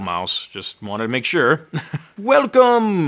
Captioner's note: laughing